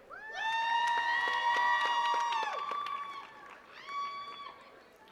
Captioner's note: attendees cheering and clapping